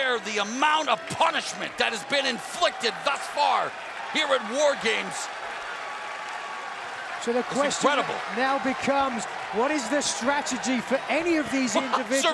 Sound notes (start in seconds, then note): 5.8 fans cheering; 11.8 Mauro chuckles